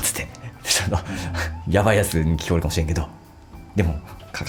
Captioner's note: laughs